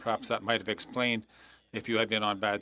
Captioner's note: speaking French